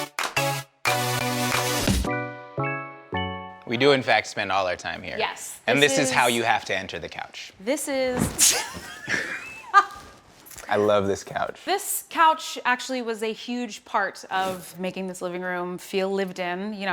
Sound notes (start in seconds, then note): 0.0 upbeat music; 8.5 laughter